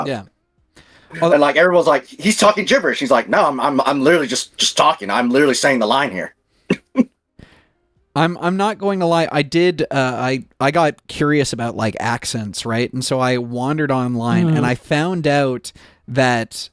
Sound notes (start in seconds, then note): 6.7 laughs